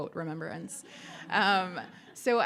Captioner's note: audience laughing